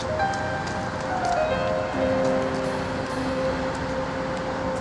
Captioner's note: piano music; footsteps thudding